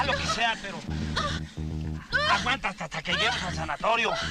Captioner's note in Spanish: Quejidos